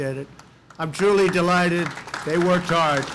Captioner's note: applause